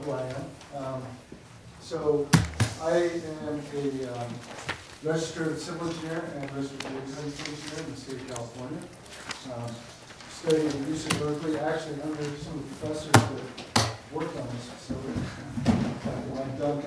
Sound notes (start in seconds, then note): 6.8 papers rustling